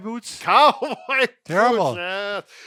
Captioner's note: laughing